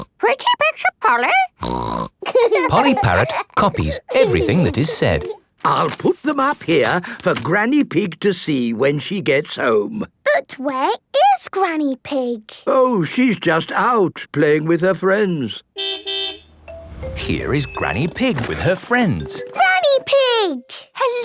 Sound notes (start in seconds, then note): 2.2 laughing; 15.7 car beep